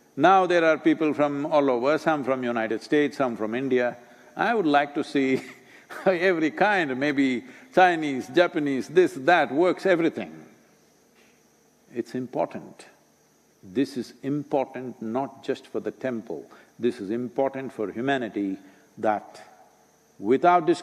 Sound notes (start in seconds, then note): 6.0 laughs